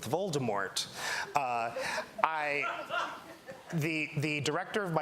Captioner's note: laughter